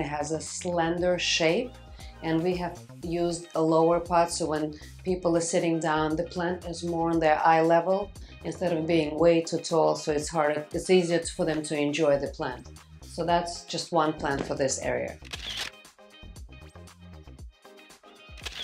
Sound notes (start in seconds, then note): 15.2 camera shutters; 15.7 bouncy pop music